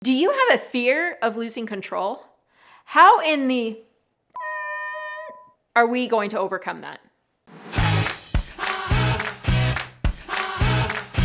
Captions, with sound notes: - Do you have a fear of losing control? How in the (beep) are we going to overcome that? (upbeat music)